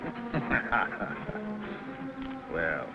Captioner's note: laughing